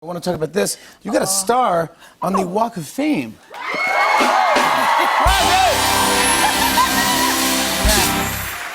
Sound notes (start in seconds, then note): 3.5 cheers and applause